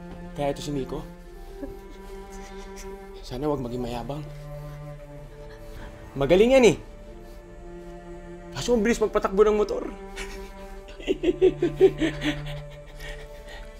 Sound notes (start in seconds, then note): 10.1 laughs silly